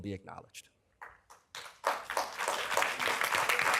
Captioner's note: applause